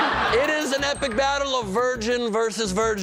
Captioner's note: laughter